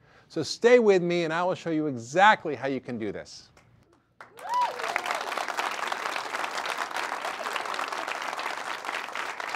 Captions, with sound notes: So stay with me and I will show you exactly how you can do this. [audience applause]